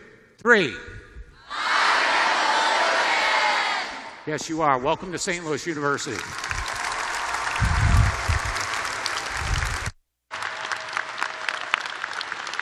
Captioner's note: applause